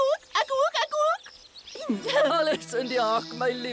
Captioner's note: laughs